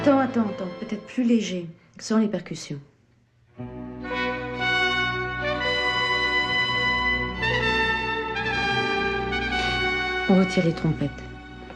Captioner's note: speaking french